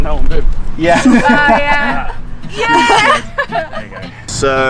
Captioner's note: laughs